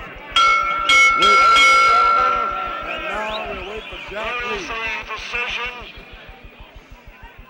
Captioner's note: bell sounds